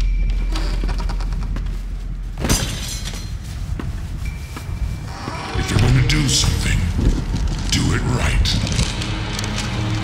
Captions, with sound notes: (door creaks open) (footsteps) If you’re gonna do something, do it right.